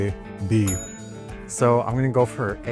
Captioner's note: ding!